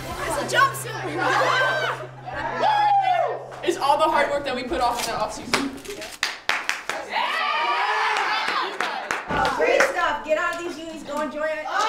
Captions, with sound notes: - This is a jumpsuit! (team laughs) - That right there, is all the hard work that we put off in their off season. (team cheers) I'm proud of you guys. - Great stuff, get out of these unis, go enjoy it.